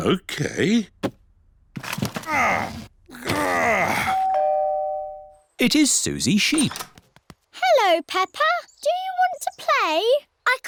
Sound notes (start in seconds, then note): 3.0 groans; 4.1 doorbell rings